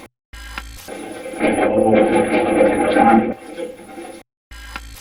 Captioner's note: static playback transmitting; static fizzing; static playback transmitting; static fizzing